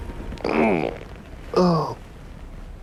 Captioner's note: groans